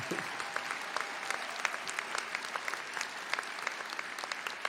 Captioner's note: audience applauding